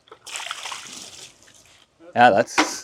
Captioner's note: water splashing